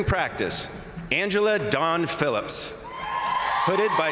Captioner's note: crowd cheering